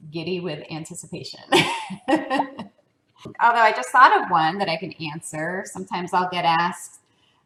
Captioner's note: laugh